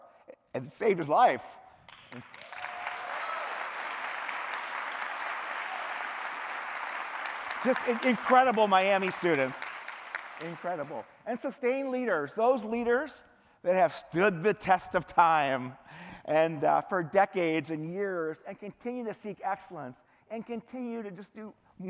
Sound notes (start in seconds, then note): 7.0 cheering; 8.3 clapping